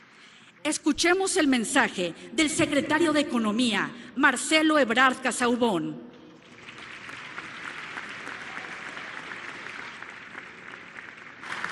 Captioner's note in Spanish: aplausos